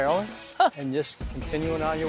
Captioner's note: laughs